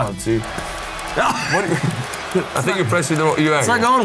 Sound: laughs

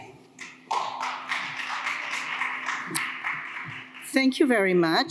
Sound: audience applauds

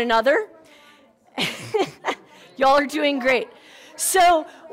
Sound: laughs

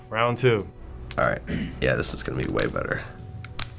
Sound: clears throat

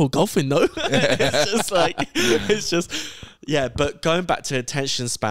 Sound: laughs

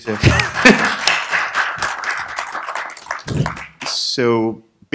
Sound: applause

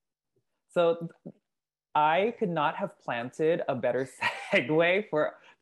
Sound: laugh

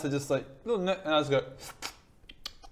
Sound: slurp

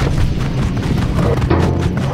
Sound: thundering hooves; boing

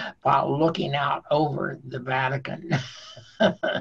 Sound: laughing

